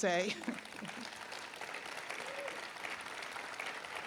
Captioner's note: applause